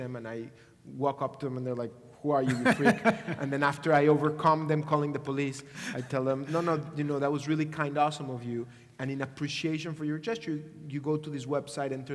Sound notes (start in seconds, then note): 2.4 laugh